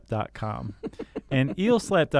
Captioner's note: chuckling